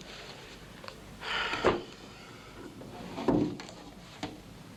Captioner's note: Mac sighs